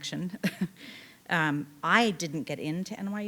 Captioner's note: chuckling